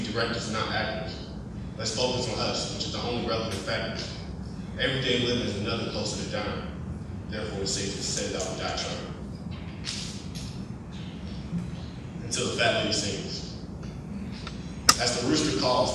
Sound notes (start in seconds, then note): none